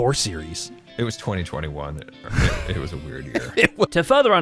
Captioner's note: laughs